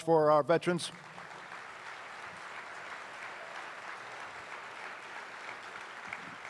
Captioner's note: attendees applauding; attendees cheering